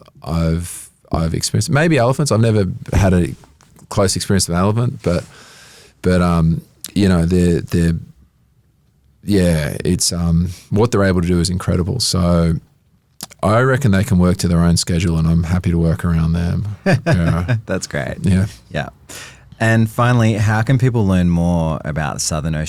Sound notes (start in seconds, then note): 16.7 laughs